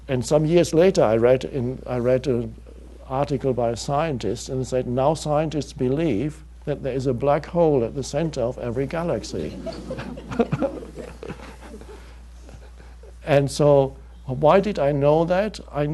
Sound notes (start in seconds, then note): 9.3 audience laughing; 9.3 chuckling